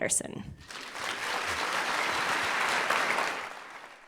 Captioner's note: applause